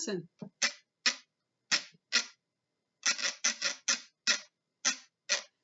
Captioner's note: scraping ridges on can